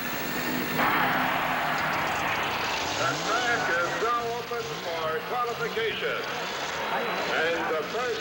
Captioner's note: crowd cheering